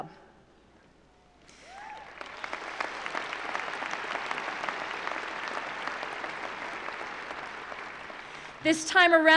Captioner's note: cheering and applause